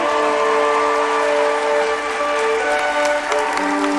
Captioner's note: crowd applauding